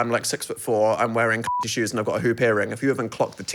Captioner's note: beep